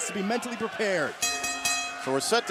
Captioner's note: bell ringing